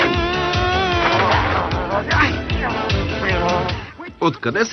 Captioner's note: grumbling